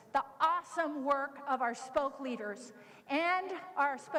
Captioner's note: none